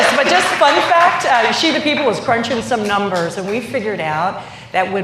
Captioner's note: applause